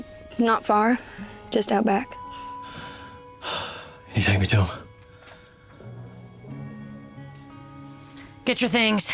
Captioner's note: sighs